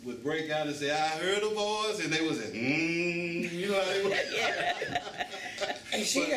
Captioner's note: hums; laughter